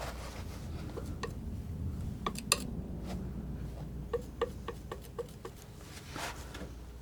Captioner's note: tapping